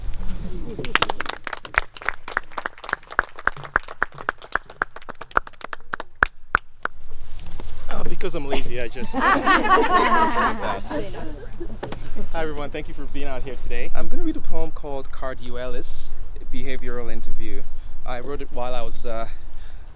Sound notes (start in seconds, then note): 0.1 murmurs of approval; 0.8 applause; 8.4 group laughter